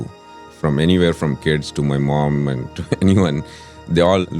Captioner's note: laughs